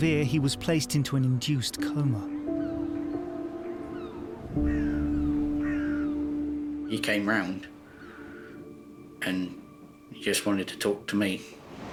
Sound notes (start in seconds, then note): 2.0 seagulls squawk